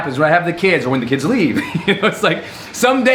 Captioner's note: laughs